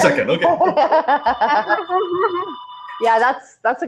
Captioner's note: laughing